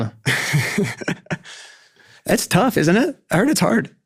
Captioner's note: laughing